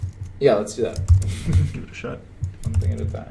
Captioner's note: chuckles